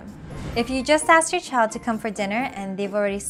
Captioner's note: text bubble whooshing